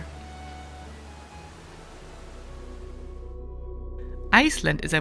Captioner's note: water sloshing; gentle music